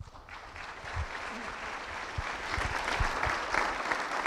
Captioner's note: applause